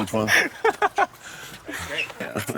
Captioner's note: laughs